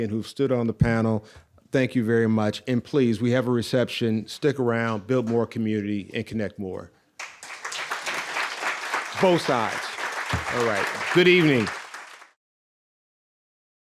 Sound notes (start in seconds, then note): 7.2 audience applauds